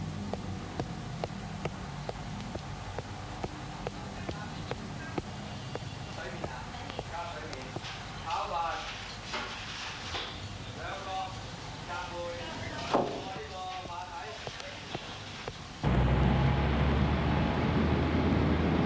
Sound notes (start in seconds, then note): 4.1 kitchen personnel chattering in foreign language